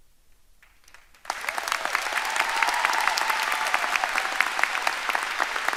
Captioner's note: audience applauding and cheering